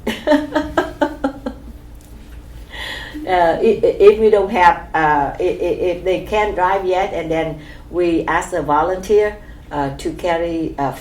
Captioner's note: laughs